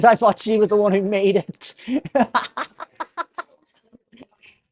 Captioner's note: laughs